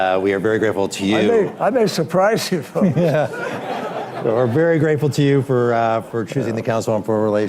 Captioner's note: laughter